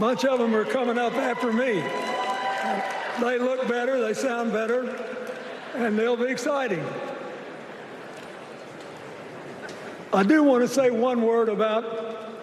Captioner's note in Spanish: Vitores